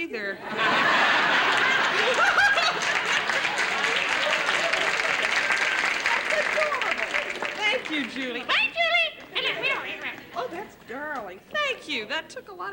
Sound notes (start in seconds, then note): 0.3 laughter; 3.6 applause; 8.1 funny voice